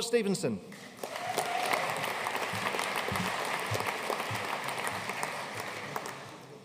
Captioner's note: audience cheering and applauding